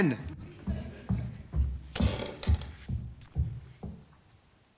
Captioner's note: George trudges up the stairs. One of them squeaks; the toilet door slams